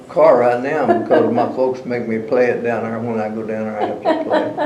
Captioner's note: laughter